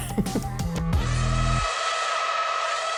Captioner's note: laughing